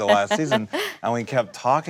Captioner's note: laughing